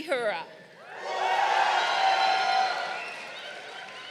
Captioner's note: crowd cheering